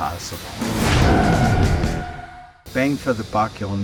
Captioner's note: tire screech